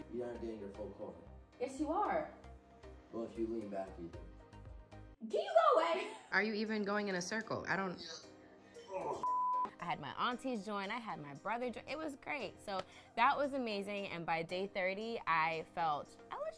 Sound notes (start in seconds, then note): 9.2 beep